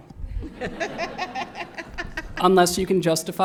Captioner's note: laughter